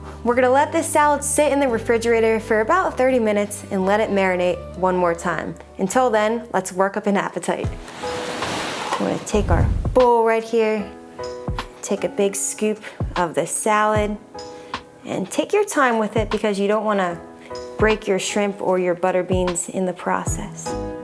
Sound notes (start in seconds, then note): 7.5 tranquil upbeat music; 7.6 waves murmuring